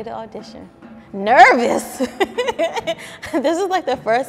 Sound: laughs

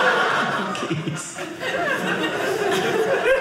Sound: audience laughing

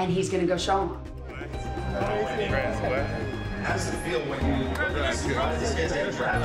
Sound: people chattering

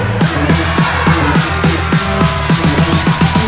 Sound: kids cheering

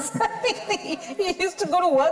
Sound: chuckling

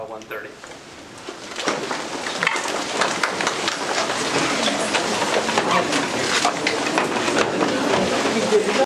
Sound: background chatter

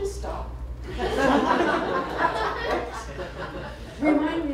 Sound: laughter

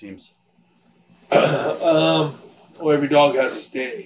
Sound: Bret coughs

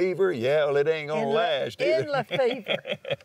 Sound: laughs

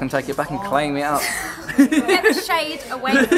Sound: laughs

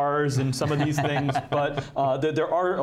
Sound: laughing

